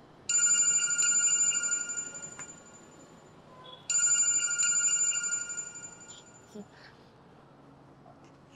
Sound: phone rings

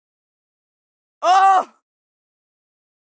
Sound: sound of pain

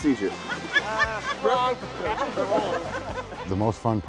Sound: men and women laugh

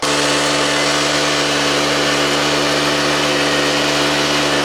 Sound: machines roaring

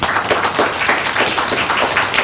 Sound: clapping

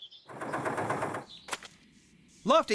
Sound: engine Running

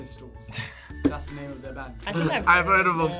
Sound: laughs

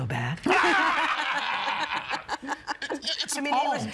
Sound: laughing

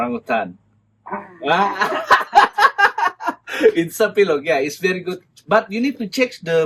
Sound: laughs

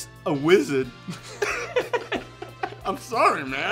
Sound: laughter

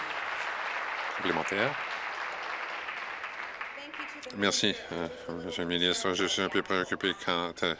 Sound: applause

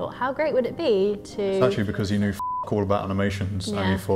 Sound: beep

